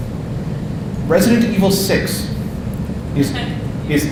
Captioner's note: audience laughing